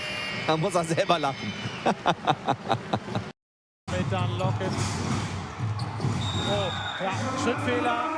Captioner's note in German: lacht